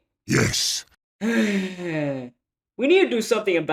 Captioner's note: sigh